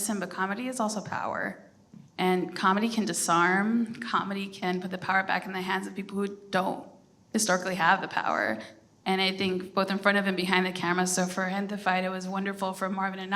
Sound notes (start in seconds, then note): none